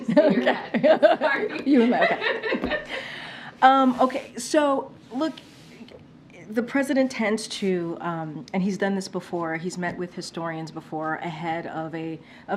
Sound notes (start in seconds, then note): 2.7 laughs